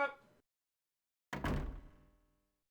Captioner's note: door shuts